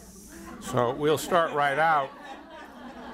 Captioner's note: audience laughter